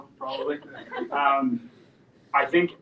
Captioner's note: audience laughs